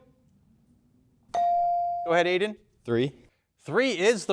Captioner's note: bell dings